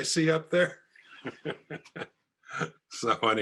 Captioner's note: laughs